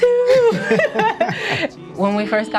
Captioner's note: laughing